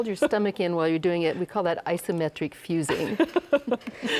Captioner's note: both laugh